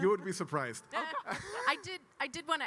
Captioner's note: laugh